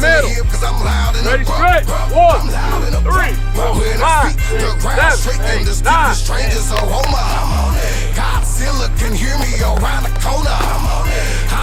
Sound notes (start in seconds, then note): 3.1 coach and players counting over rhythmic hip hop music; 6.7 players clapping